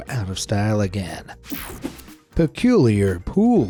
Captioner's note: swishing